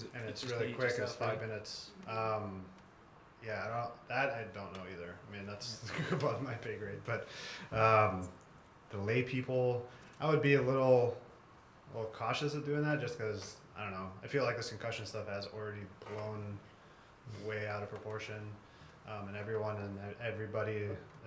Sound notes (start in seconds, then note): 5.8 laugh